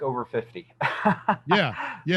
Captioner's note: laughs